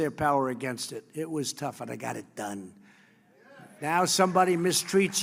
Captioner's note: applause